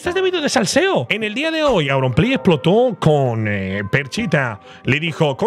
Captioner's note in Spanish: imita la voz de los vídeos